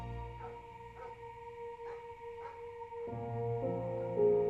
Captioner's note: dog barking in distance; light melodic orchestral music